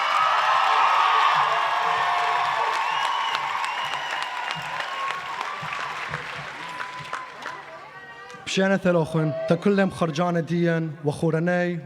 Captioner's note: applause